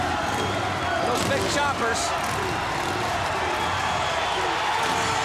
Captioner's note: crowd cheering